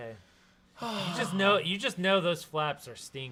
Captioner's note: sighs